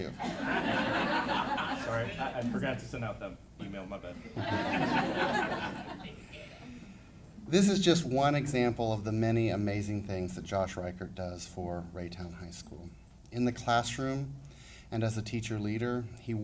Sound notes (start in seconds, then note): 0.1 laughing; 4.1 laughing